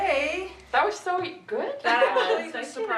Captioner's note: murmurs